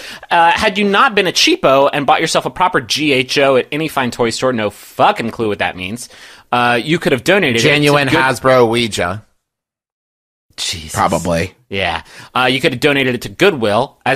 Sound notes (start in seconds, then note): 10.5 softly, exasperated